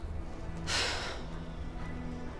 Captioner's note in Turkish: İç çekiyor